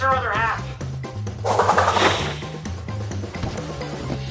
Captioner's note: transformation sound